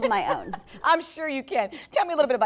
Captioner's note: laughing